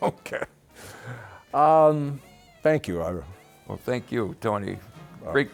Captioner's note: laughs